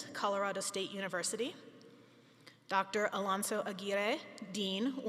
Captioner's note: none